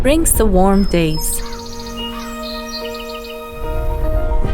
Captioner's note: birds chirping